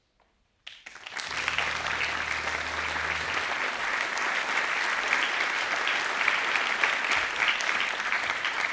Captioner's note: applause